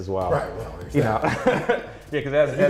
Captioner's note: laughs